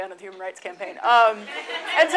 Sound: audience laughs

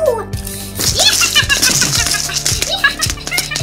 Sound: laughing

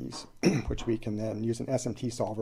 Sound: clears throat

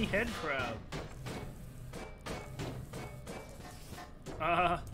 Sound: sawblade violently smashes against every surface

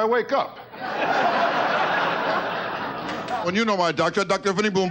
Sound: audience laughing

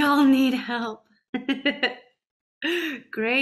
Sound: laughs

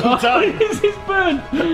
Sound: both laughing

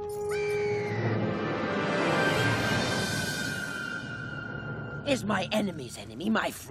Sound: squawking

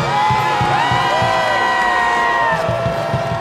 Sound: cheering

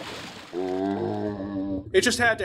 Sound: zombie sound

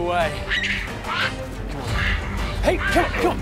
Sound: baboon screeches

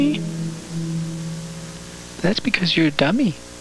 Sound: static noise gets louder; calm music; music fades out; constant static buzz

